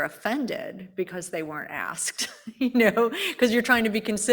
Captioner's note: laughs